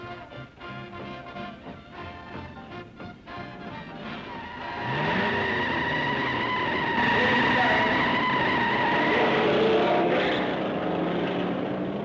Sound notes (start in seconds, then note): 4.5 tires squealing; 5.3 engines revving; 9.2 engines revving